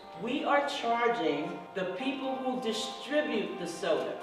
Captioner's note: voiceover